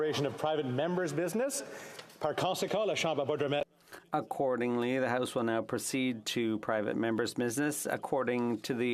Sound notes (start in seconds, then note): 7.0 speaking French